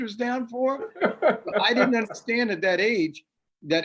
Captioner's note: laughs